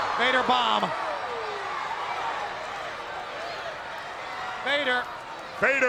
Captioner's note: crowd yelling